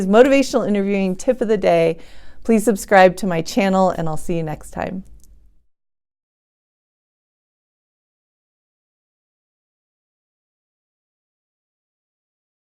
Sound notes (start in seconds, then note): 5.2 silence